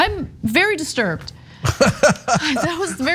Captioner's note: laugh